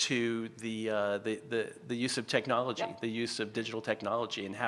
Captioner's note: stutters